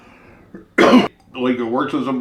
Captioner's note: coughs